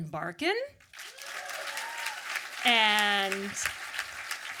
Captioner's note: audience applause